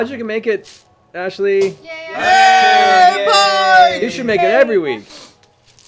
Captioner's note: cheering